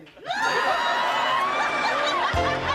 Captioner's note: laughing